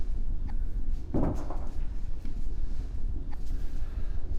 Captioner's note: clattering